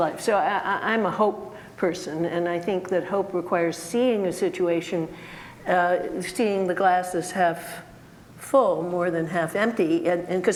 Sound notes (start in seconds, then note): none